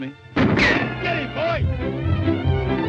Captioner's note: gun firing